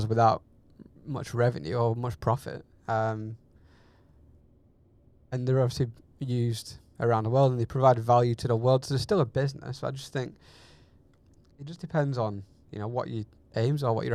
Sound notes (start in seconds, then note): none